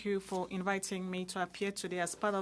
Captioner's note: speaking French